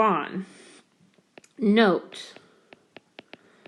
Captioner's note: keyboard Tapping